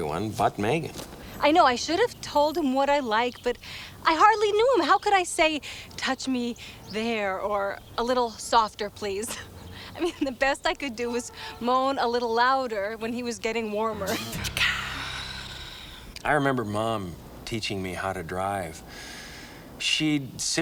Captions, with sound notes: - I like having the hair back here, gently pulled right before, you know. (groovy music) (Megan moaning) Ow. Ow. - Oh, I'm sorry. I'm sorry. I'm sorry. Technically, I was making love to everyone but Megan.